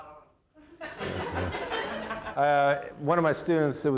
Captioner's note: audience laughing